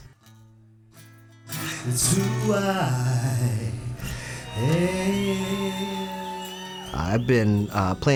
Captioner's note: cheering